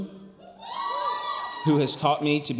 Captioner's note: audience cheering and applauding